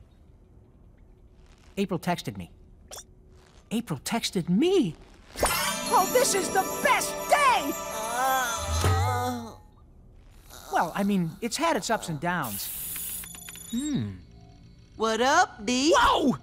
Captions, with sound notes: April texted me. April texted me . Oh, this is the best day! [Mikey groaning] Well, I mean, it's had its ups and downs. -What up, D? -Whoa!